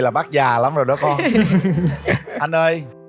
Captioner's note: laugh